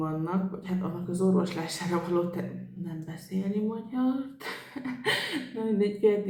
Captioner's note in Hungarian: nevetés